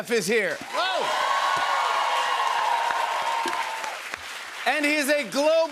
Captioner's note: cheers and applause